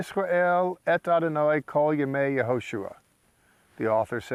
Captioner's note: speaking in Hebrew